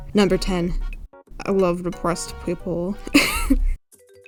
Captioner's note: coughs